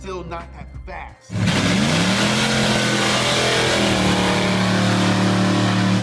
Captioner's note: 454 SS engine revving